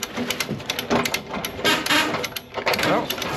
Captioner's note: equipment squeaks; ratchet clicks